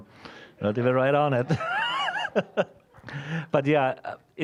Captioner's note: laughing